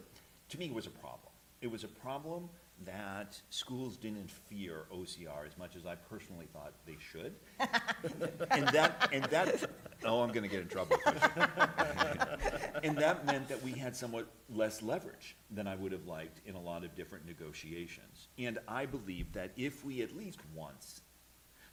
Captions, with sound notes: So to me, it was a problem. It was a problem that schools didn't fear OCR as much as I personally thought they should. [LAUGHTER] Oh, I'm going to get in trouble for that. [LAUGHTER] And that meant that we had somewhat less leverage than I would have liked in a lot of different negotiations. And I believe that if we at least once--